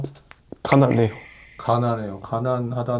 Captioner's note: choking up